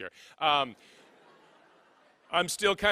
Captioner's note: laughing